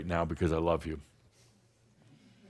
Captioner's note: none